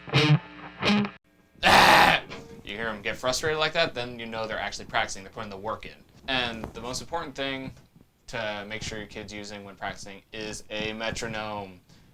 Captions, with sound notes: (guitar strums) (groans) you hear them get frustrated like that, then you know they're actually practicing, they're putting the work in. And the most important thing to make sure your kid's using when practicing is a metronome.